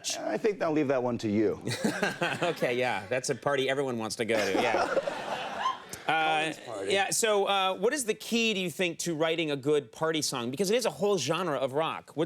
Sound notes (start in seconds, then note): 1.6 laughing; 4.4 audience laughing